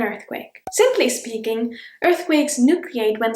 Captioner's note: bubble pops